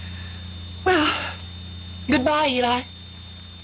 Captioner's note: none